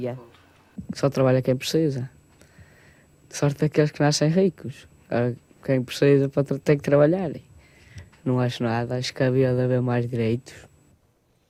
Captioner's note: speaking portugese